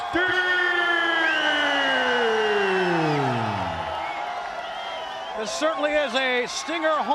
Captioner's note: crowd cheering